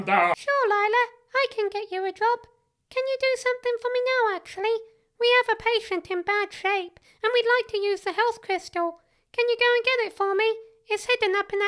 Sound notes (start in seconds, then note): none